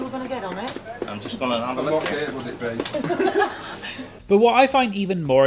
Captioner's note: laughs